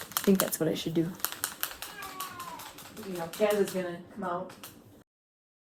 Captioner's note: meowing in background